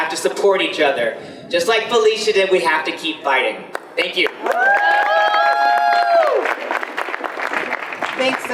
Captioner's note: audience applause